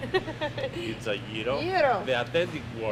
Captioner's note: laugh